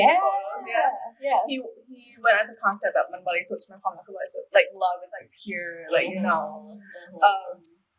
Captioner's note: in Thai